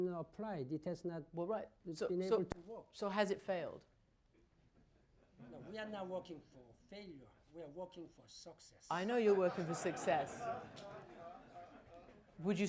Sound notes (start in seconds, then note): 9.2 laughter